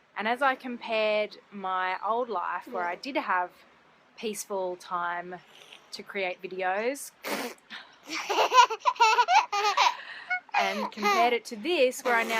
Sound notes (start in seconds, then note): 7.2 spits; 8.1 laughter